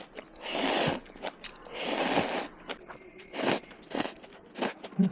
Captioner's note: slurping noodles